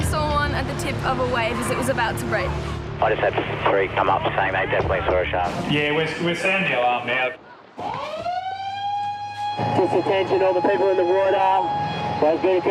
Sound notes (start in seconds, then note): 3.5 voice On Radio; 7.7 siren sounds